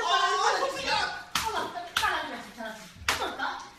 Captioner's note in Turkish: şaplak